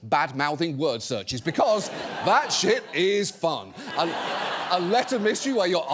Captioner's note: audience laughs